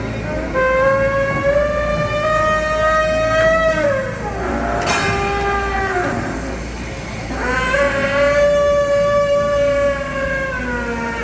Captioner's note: sound of mechanical elephant trumpeting